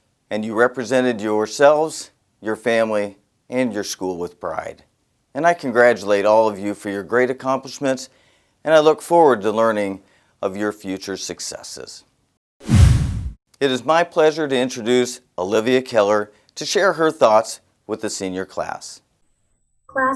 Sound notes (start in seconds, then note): 12.6 whoosh; 12.6 resonating boom